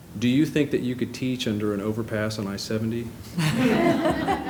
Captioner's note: laughter